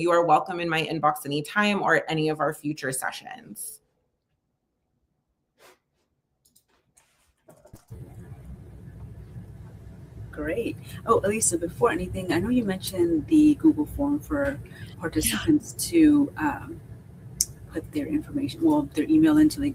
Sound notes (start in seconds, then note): 4.7 silence